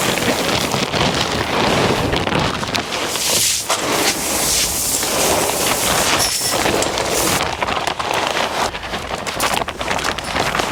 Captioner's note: crisp sound of clean golden corn flooding the mud by the trap trigger